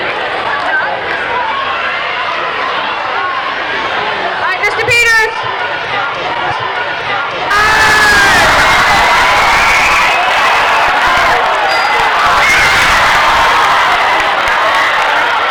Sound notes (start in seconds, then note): 6.9 crowd cheering; 11.7 dinging; 12.6 crowd cheering